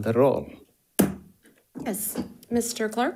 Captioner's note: hammer slamming